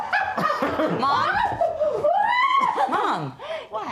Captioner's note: laughter